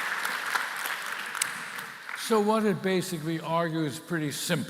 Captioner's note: applause